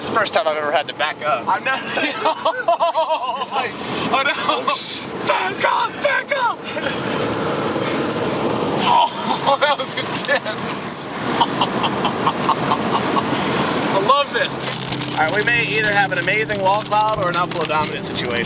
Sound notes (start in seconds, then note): 1.8 laughs; 11.3 chuckles